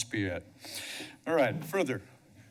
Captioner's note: inhales